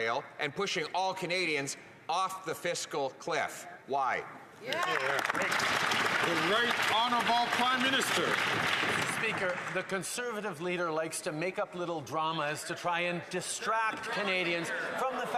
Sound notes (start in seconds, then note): 7.8 some Applause